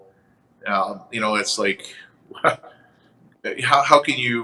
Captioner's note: chuckles